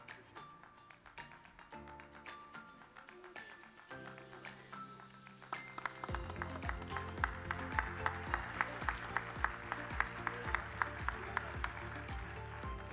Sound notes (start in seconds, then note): 3.1 upbeat music; 5.7 attendees applauding and cheering